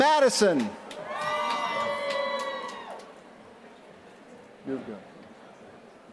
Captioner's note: applause